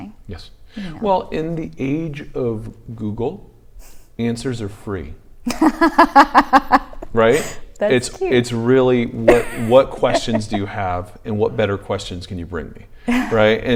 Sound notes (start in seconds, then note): 5.6 laughs